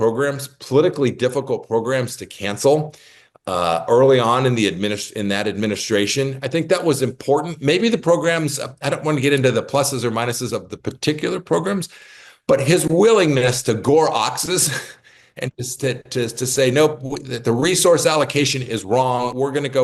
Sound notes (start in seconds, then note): 15.7 laugh